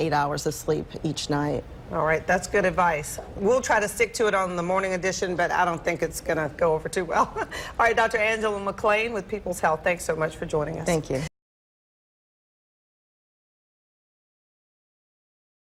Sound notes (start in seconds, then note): 7.2 laughter